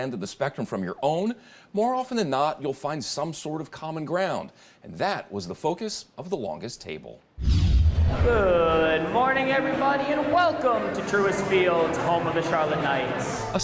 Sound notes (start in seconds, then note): 7.4 transition whooshing